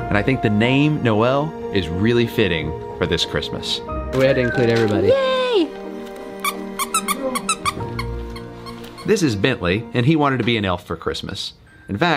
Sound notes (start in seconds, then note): 6.4 squeaky toy squeaking